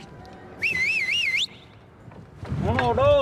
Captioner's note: whistles